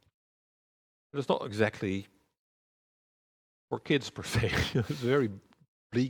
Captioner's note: chuckles